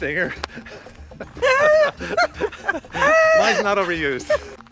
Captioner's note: laughing